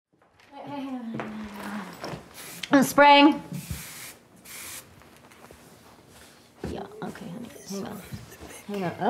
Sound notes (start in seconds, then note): 4.4 spray can whooshing